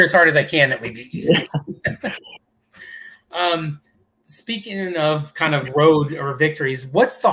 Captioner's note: laughter